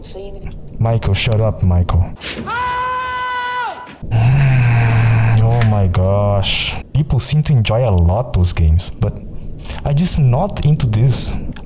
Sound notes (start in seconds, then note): 3.3 groan